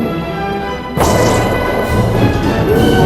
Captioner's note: cannon firing